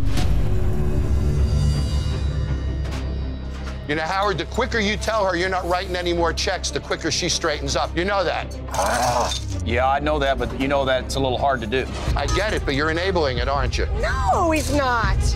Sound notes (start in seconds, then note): 0.3 tense dramatic music; 8.7 groaning